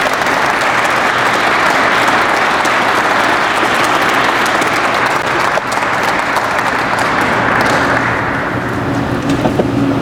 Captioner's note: crowd applauds